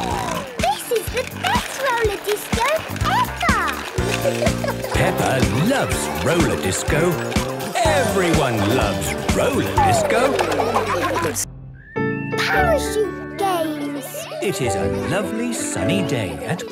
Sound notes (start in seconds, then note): 0.0 snorting; 9.4 laughter